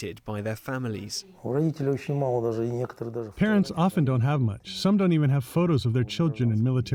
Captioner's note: through translator